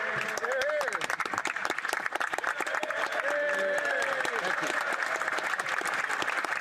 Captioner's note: some Applause